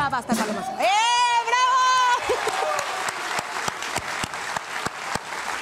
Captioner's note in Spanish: Aplausos